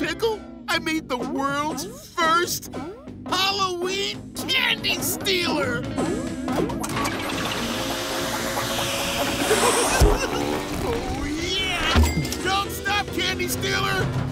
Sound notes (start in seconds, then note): 9.5 giggling